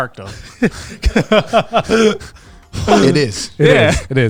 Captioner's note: laughing